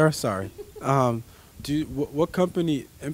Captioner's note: laughing